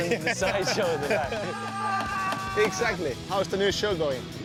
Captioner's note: laughs